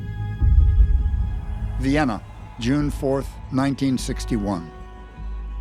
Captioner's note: tense music playing; crowd cheering